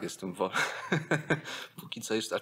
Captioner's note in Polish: śmiech